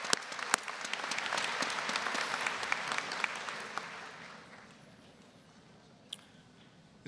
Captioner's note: applause, cheering; applause